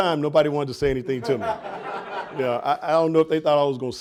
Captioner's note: audience laughing